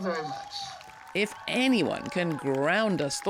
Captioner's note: crowd cheering and applauding